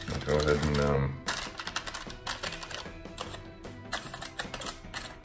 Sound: crinkling

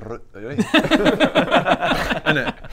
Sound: grossed out laughter

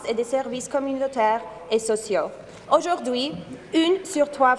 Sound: speaking in French

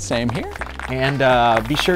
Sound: applause

